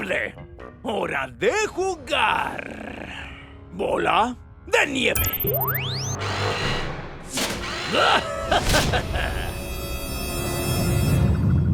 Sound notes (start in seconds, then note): 5.0 ship whirring; 7.9 Hacker laughs; 8.7 tense music